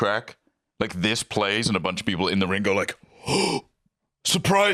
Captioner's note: gasps